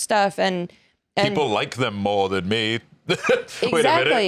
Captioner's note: laughs